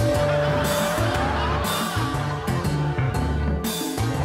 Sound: crowd laughing

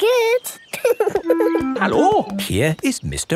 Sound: laughing

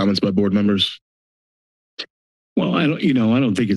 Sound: silence

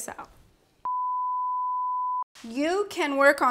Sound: electronic beeping

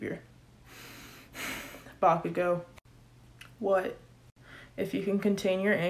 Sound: sigh

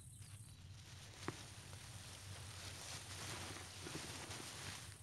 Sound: grass rustles

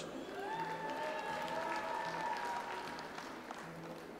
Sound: audience applauds

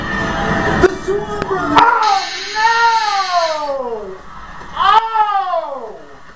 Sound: buzzer

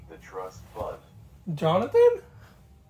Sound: surprised

